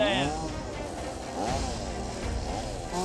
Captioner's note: chainsaw revving